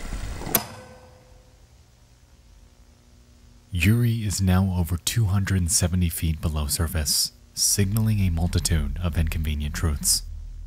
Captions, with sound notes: (film reel clicks) Yuri is now over 270 feet below surface signaling a multitude of inconvenient truths.